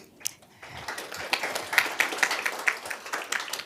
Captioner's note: applause